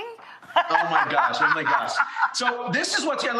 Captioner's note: laughs